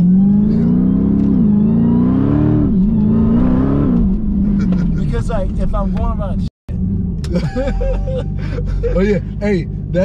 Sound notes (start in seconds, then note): 0.0 car engine revving; 4.7 laughing; 7.3 both laughing